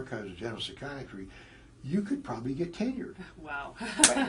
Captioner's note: laugh